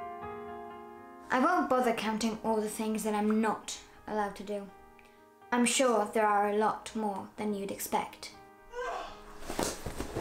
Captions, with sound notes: I won't bother counting all the things that I'm not allowed to do. I'm sure they're a lot more than you’d expect. (Mother's scream)